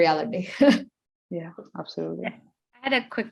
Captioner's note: laughing